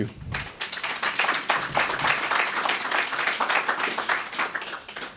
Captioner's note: applause